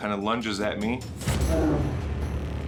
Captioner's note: growls